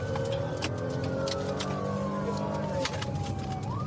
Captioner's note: siren blaring